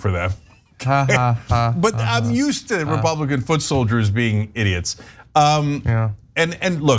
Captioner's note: laugh